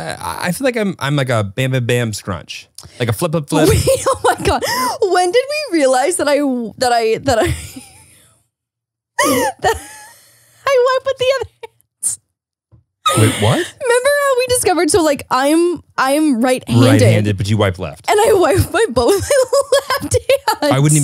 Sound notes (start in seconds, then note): 9.2 laughs